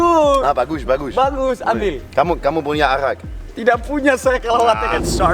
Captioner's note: foreign language